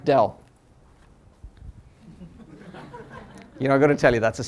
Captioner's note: laughter